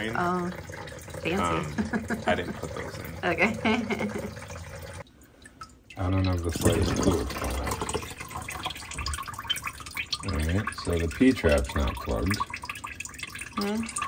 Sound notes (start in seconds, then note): 7.0 water drowns out speaker